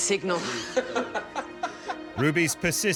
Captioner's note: laughs; men laughing